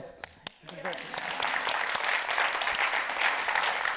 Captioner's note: audience applauds